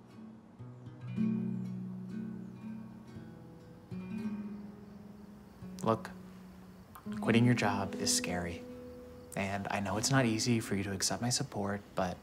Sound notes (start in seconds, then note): none